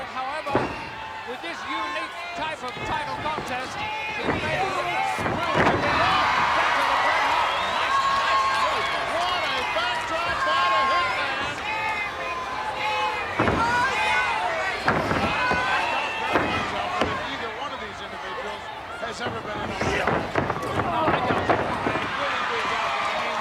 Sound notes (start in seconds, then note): 0.0 applause; 12.5 applause